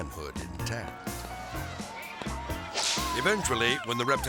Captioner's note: melodic music; hand thumping